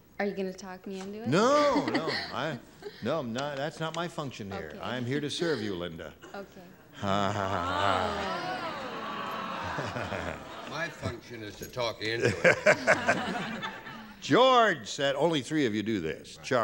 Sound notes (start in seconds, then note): 6.9 audience groans; 6.9 chuckles; 12.2 laughter